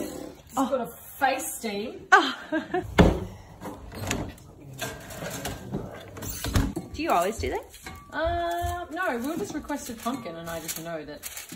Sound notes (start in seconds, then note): 2.1 laughter